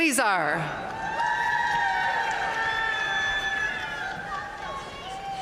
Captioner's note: audience cheering and applauding